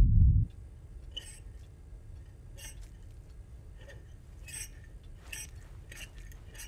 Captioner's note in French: grincement